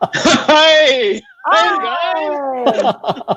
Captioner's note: laughing